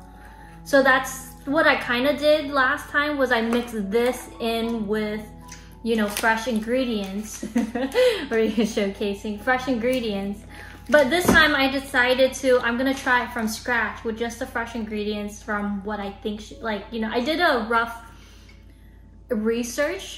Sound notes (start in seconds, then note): 7.4 laughs